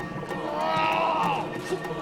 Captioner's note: grunting